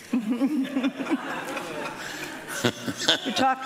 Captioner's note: laughing